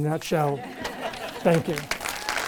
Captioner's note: audience laughing; audience clapping